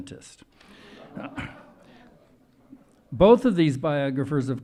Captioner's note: audience laughing